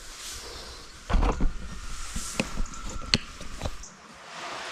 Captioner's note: camera rustling